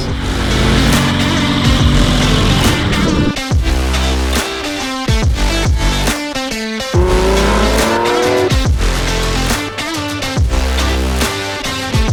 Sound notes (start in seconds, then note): 0.0 burning Rubber; 6.9 engine Revving